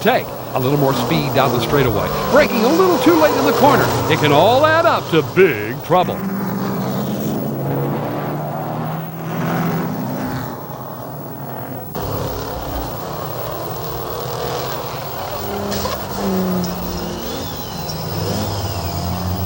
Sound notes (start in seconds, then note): 7.0 engines growl; 16.5 metal crashes